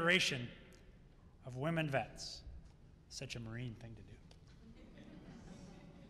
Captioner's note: laughter